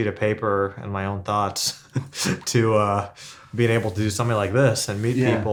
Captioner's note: laughs